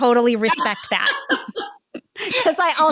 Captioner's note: joint laughter